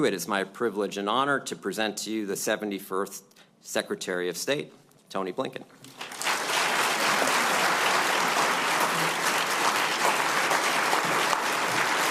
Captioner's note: applause